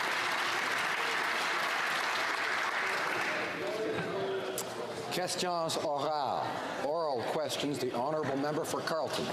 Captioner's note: some Applause